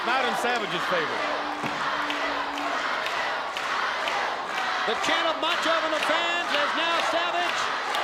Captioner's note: applause